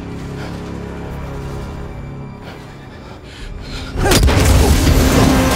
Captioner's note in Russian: тяжелое дыхание